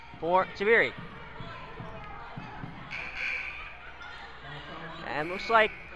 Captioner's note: crowd talking and yelling